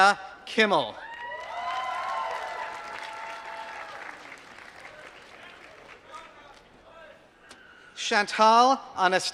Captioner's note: applause